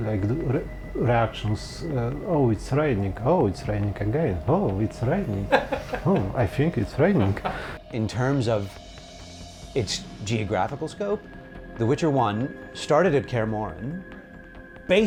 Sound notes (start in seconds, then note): 5.4 laughing